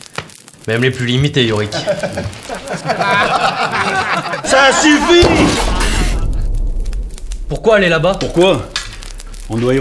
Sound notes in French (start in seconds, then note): 1.7 rires